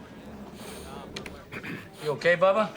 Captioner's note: sniffing